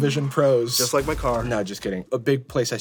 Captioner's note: car crashing